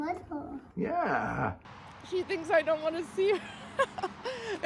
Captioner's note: chuckles anxiously